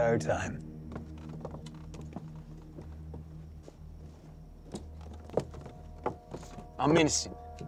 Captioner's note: footsteps